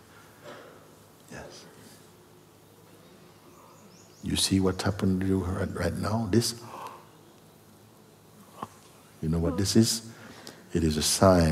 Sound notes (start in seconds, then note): 7.5 yawn